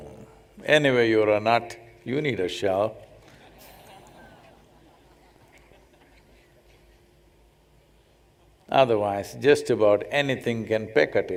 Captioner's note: laughter